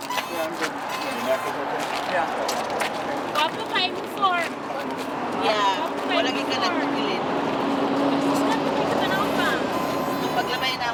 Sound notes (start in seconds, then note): 1.3 group chattering; 6.2 speaking in foreign language